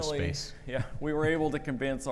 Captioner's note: chuckles